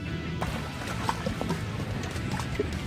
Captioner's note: water splashing